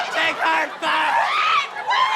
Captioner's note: screaming